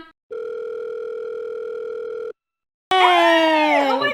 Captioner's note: phone rings